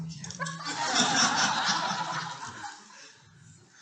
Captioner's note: deep Breathing